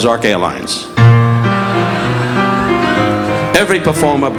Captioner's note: audience laughing